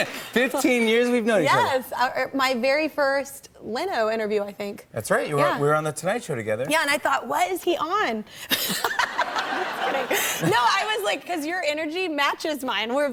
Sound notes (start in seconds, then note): 8.5 laughter